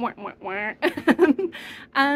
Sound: giggling

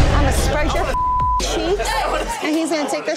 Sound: beeping

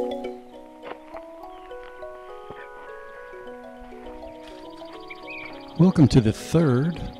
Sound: birds singing; footsteps crunching

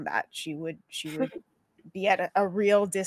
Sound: chuckles

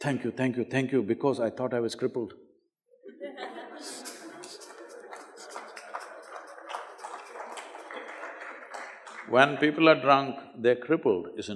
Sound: laugh

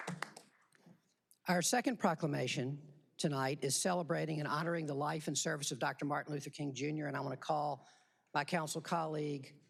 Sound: applause

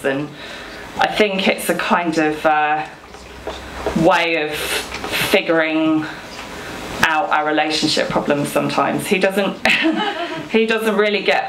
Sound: audience laughs

